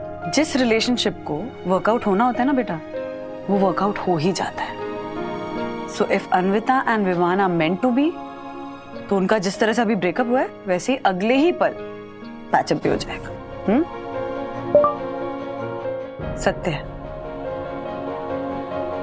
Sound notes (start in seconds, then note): 14.7 phone beeping